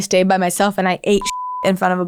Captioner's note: beeping